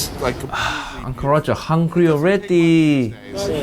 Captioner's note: Uncle Roger sighs